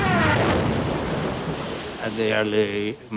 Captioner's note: gunshot fire; plane crashes